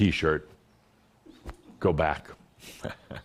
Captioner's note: Adamus chuckles